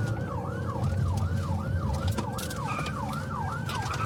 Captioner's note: siren wailing